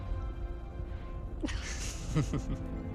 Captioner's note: laughing